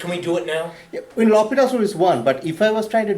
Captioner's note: voiceover